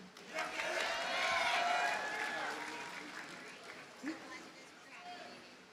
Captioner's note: audience cheers and applauds